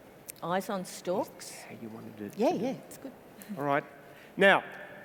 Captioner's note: whispers